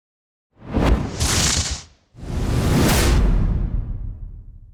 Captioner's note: whooshing; exploding